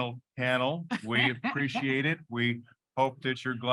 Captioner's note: chuckling